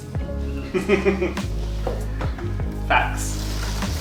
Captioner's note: laughing